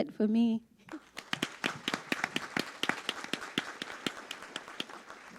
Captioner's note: audience applauds